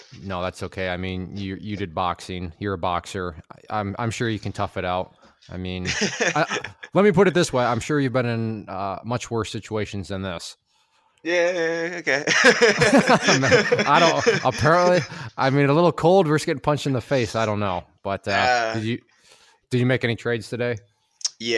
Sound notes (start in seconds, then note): 5.8 laughs; 11.2 laughing